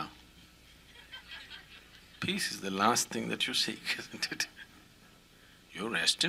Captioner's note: all laugh